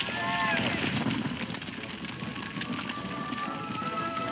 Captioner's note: fire crackling; men shouting; gentle music